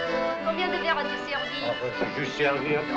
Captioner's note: French